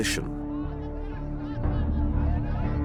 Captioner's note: indistinct shouting